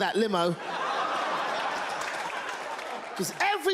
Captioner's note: audience laughs